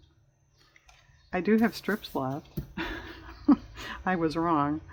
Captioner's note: laughs